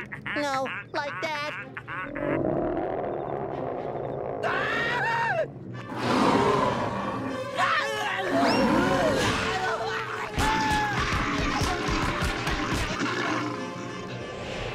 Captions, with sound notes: No, like that. [growling] [growling] [roaring] [screaming] [banging]